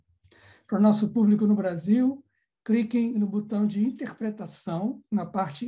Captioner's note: speaking in Portuguese